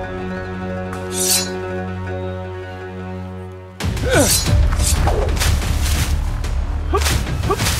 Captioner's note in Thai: เสียงการต่อสู้